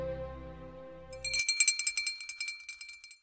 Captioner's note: bell rings